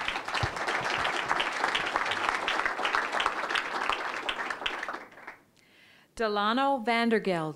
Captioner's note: applause